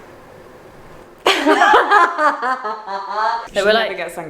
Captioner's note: both laugh